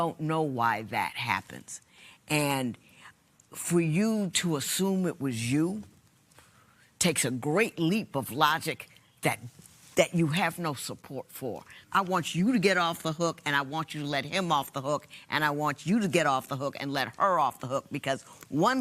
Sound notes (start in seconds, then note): none